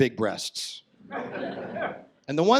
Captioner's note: audience laughs